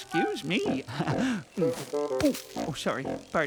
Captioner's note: humming